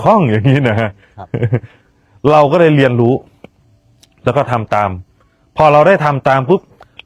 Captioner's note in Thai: เสียงหัวเราะ